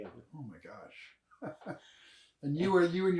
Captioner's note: laughs